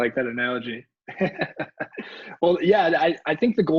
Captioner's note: laughing